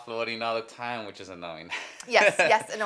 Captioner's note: laughs